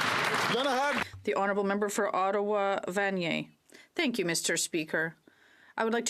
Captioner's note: applause